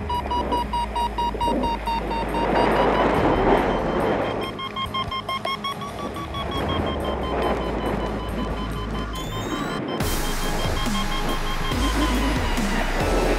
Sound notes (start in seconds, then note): 0.1 alarm continues; 0.1 wind whooshing; 2.2 strong wind gusts; 3.2 alarm intensifies; 8.7 alarm accelerates; 13.1 alarm intensifies; 13.1 wind whooshing